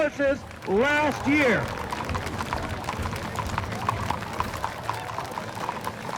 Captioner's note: onlookers applauding